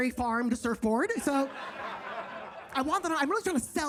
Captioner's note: audience laughs